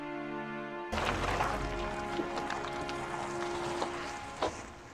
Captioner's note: car engine rumbling